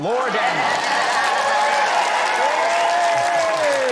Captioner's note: cheering, applause